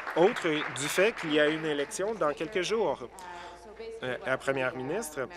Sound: applause

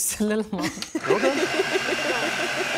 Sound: laughing; food processor whirring

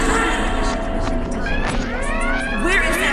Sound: alarms

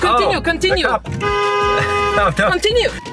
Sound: horn honking

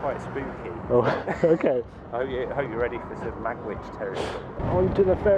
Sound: nervous laughter

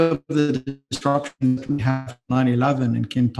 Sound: distortion in audio

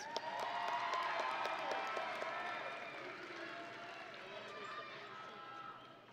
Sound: audience and graduates cheering

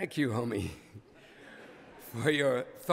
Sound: laughter

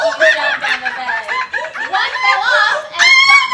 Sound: monkey noises

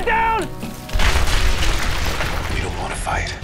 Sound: loud rumbling

